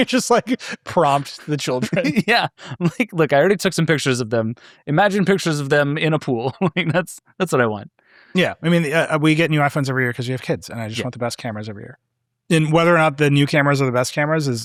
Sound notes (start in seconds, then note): 6.3 laughing